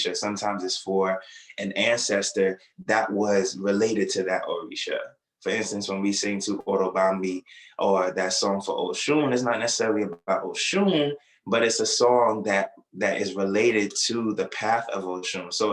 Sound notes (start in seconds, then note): 6.7 non-english speech